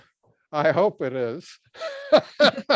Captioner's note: laughs